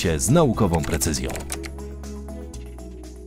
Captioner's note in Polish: odgłosy klawiatury